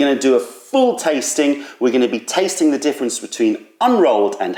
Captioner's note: none